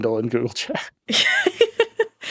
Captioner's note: laughing